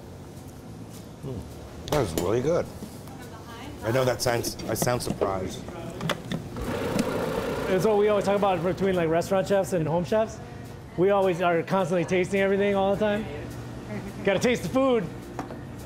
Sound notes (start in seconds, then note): 6.1 machine whirring